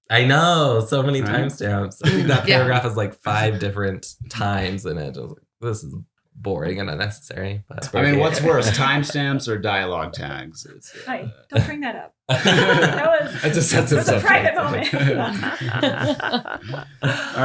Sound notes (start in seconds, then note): 12.3 laughs; 15.4 laughter